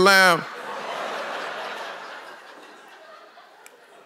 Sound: congregation laughs

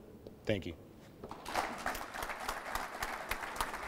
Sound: applause

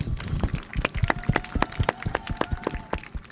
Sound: applause

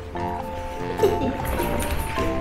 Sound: laughs

